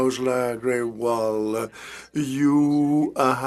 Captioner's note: speaking French